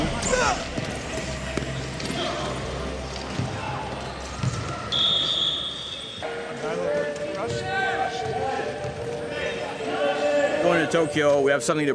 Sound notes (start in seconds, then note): 3.2 whistle blast sounding